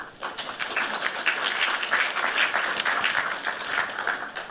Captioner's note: applause